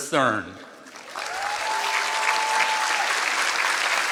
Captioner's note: applause